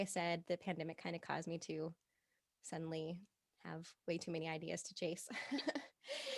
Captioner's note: laughing